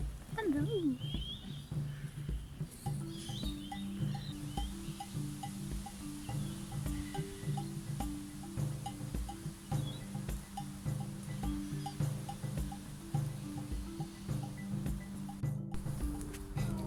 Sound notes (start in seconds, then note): 1.3 birds chirping